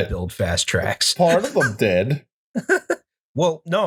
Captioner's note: laughter